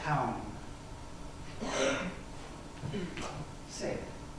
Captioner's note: coughs